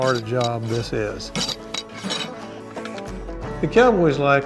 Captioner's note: rasp scratching